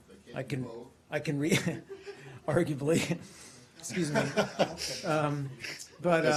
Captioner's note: laughter